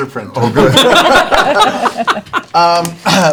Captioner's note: laughter